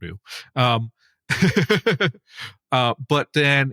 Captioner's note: laugh